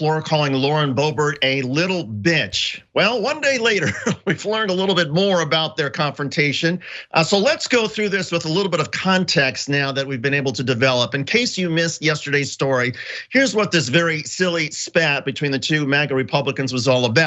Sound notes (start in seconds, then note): 3.5 laugh